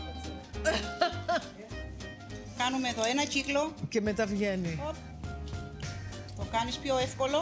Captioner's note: laughs